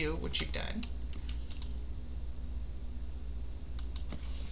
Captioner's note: keyboard clicking